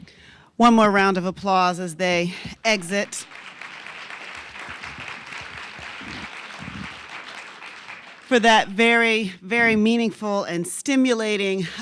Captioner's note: applause